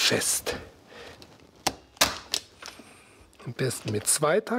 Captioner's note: sound of gunshot